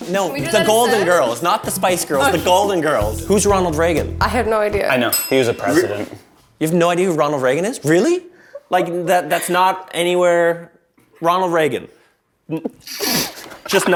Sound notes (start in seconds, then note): 4.7 bell rings; 13.0 laughs